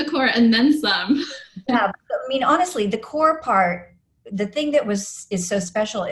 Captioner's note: laughs